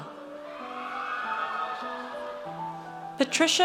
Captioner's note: audience cheers